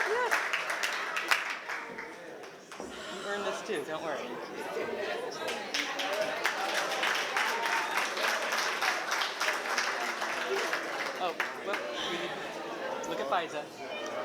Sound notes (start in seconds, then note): 5.4 applause